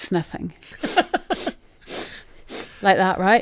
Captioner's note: sniffing sounds